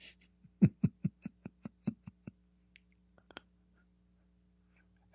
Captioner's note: Ketawa